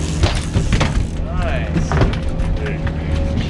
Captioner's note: fish thrashing